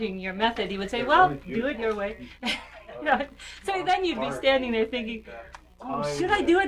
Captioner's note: laughs